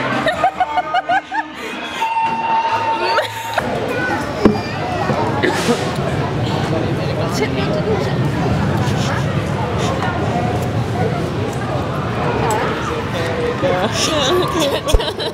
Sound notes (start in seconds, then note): 2.0 alarm Noises